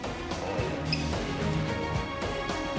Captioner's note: beeps